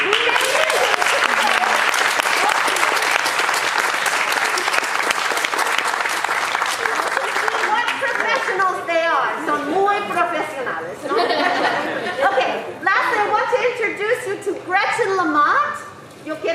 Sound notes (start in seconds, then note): 0.0 audience applauding; 9.7 speaking in foreign language